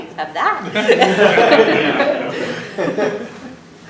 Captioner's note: laughter